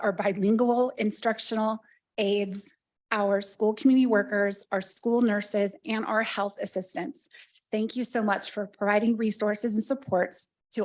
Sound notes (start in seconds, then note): none